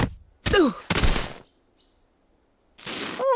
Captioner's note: groans